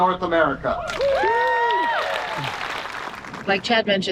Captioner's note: audience cheering and applauding